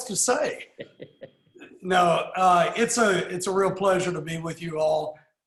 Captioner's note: laughs